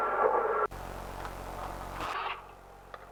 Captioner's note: Static